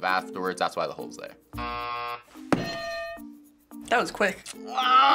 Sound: buzzer; hitting bell

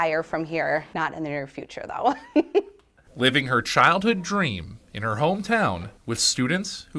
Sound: laughs

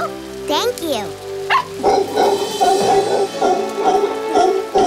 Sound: barking

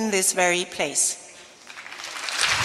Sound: applause

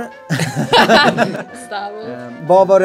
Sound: laugh

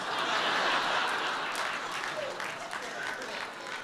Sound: laughter

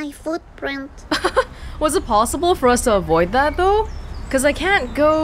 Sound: chuckles

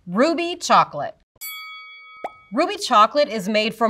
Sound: bell dings

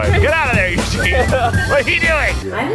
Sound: laughing

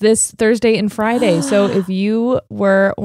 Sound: gasps

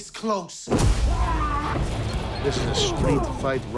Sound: fighter yelling

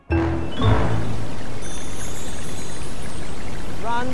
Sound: rain

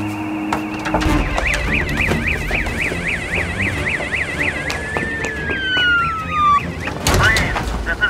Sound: police Sirens

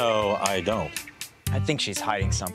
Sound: none

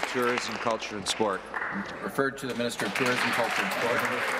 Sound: applause

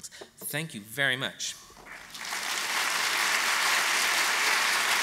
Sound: applause

